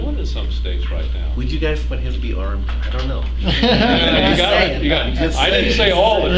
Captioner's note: laughter